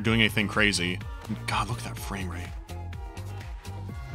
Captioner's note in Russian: шёпотом